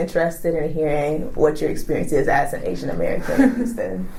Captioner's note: laughs